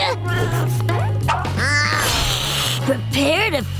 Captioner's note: hissing